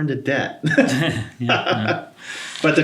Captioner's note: both laugh